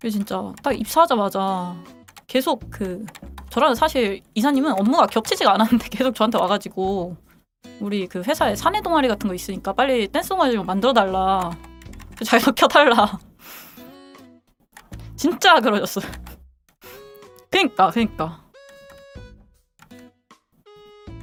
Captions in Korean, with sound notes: 진짜 딱 입사하자마자 계속 그 저라는 사실 이사님은 업무가 겹치지가 않았는데 계속 저한테 와 가지고 우리 그 회사에 사내 동아리 같은 거 있으니까 빨리 댄스 동아머리 만들어 달라 자기 켜 달라 [콧방귀] 진짜 그러졌어 그러니까 그러니까